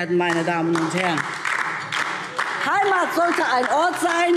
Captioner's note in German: Beifall DIE LINKE